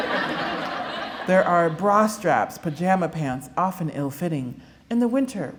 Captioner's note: laughter